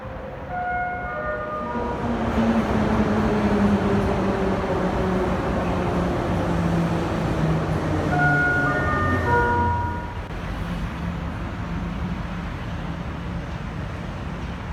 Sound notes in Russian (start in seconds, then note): 0.0 сигнал о прибытии поезда; 2.5 прибытие поезда на станцию